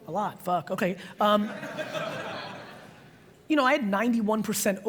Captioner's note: audience laughs